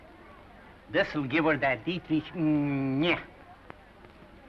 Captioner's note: speaks gibberish